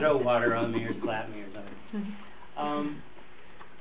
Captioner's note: audience laughing